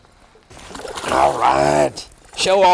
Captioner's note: splash